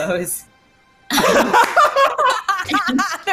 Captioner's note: laugh